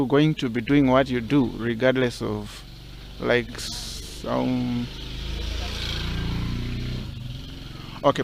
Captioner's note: motorbike passing